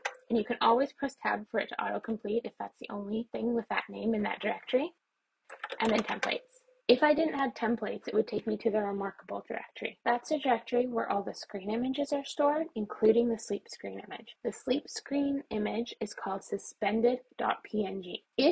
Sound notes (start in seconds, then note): 5.4 keyboard keys pressed